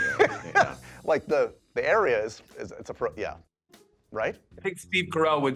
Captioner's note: laughs